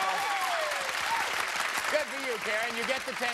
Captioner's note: cheers and applause